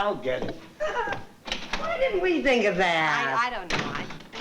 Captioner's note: laughs